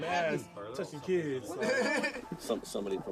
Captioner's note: laughs